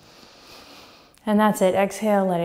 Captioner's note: inhale